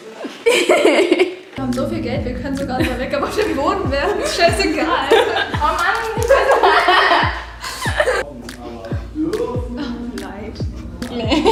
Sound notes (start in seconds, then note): 4.0 drowned by laughter